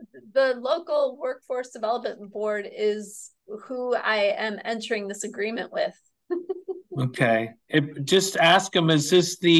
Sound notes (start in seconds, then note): 6.3 chuckles